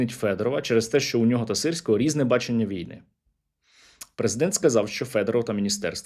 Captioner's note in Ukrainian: сопіння